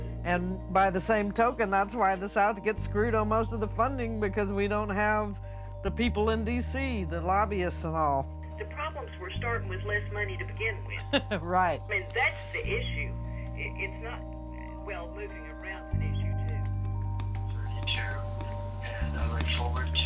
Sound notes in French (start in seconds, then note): 10.9 gloussements; 12.4 Femme au haut-parleur; 18.1 homme, message vocal